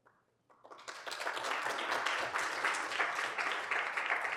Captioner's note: applause